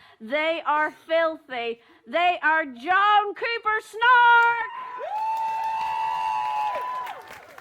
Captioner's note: whoops and cheers